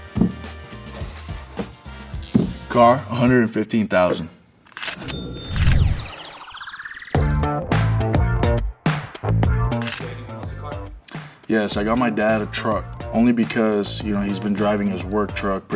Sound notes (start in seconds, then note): 5.0 ka-ching; 6.5 upbeat music